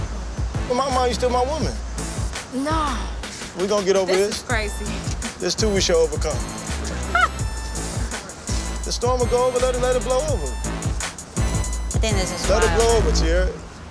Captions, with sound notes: Come on, you're still my woman. >>: Nah. >>: We gon get over it. >>: This is crazy. >>: This too we shall overcome. (laughing) The storm will go, we gotta let it blow over. >>: We gotta let it blow over, Teairra.